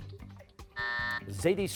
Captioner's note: buzzer